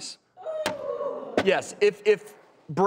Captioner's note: cheering